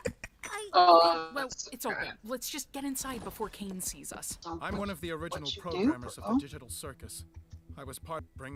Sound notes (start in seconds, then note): 1.3 exasperated